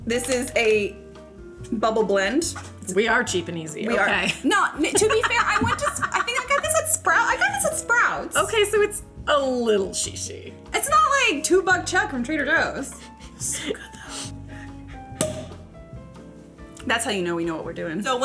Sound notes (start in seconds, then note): 13.4 whispering; 15.2 cork popping